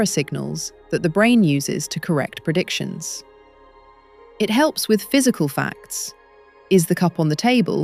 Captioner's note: serious tone